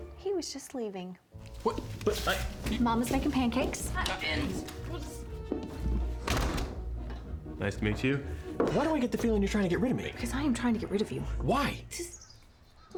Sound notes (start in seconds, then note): 6.2 door opens, closes